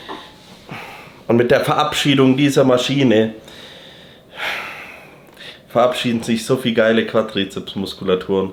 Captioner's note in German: seufzt